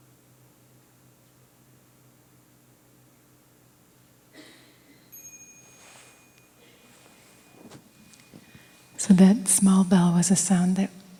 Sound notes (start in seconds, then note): 5.0 small bell